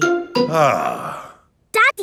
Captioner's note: sighs